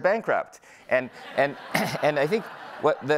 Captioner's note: audience laughing